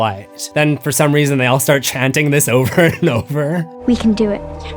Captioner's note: laughing